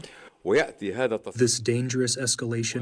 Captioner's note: through translator